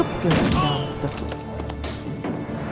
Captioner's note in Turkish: Düşme sesi